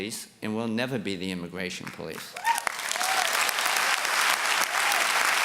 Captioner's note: applause and cheers